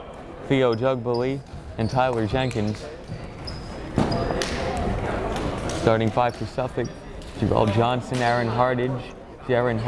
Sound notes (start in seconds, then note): 3.7 chattering